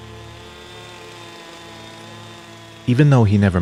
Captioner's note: sound of chainsaw cutting wood